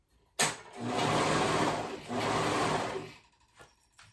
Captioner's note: machine humming